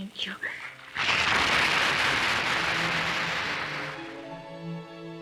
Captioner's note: audience applauds